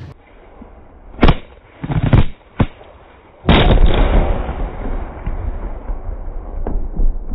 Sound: small pops followed by explosive boom

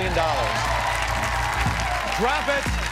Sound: cheers and applause

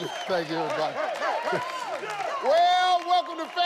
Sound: audience cheering

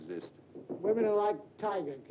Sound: knocking on door

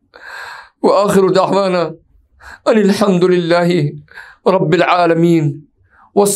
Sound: arabic

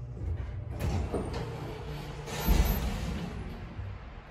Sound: door Opens

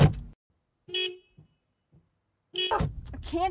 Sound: intermittent car honks

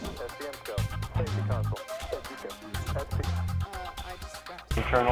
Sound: radio background noises

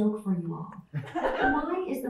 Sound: laughter

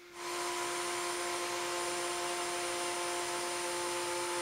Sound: router whirring

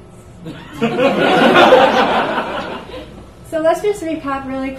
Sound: audience laughs

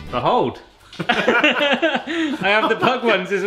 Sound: both laughs

